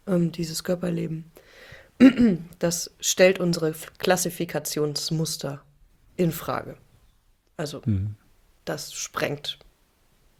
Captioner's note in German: räuspern